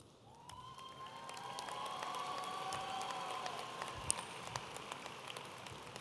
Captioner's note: audience applauding and cheering